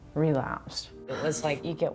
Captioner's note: heavy sigh